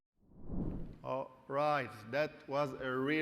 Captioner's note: graphic whooshing